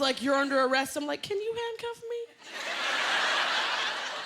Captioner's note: laughter